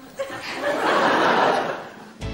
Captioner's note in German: Lachen